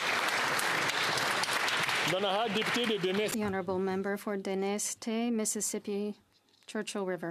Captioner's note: applause